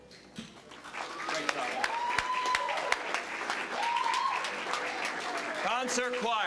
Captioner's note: applause, cheering